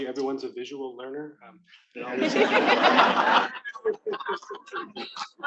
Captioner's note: attendees laughing